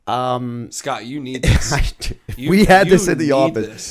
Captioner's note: chuckle